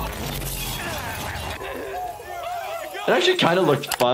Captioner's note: glass breaking; people screaming; Steve-O grunting